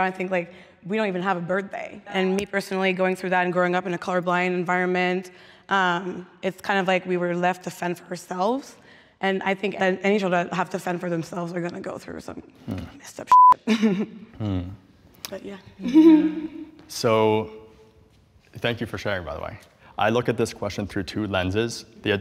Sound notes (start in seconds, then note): 13.3 beep